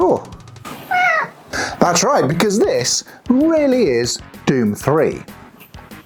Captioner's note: meow